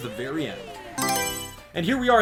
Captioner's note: Mario Selection Sound